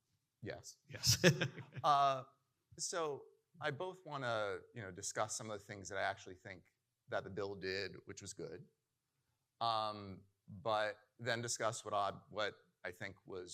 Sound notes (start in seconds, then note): 1.0 laughing